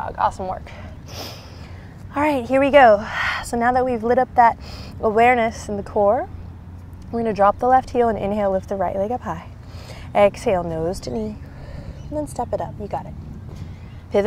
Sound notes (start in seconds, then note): 0.8 takes deep breath; 1.0 blows out breath; 9.6 blows out breath